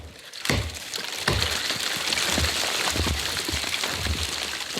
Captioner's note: snow crunching